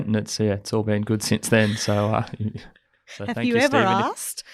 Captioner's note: laughs